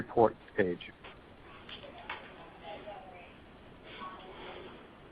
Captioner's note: silence